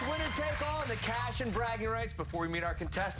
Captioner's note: cheers and applause